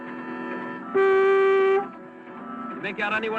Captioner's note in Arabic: صوت بوق